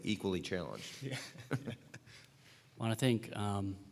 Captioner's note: laughter